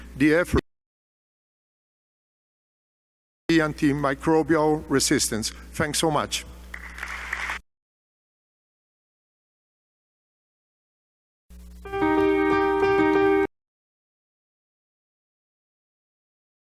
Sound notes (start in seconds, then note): 6.7 applause; 8.1 silence